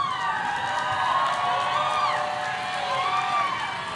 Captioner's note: audience cheering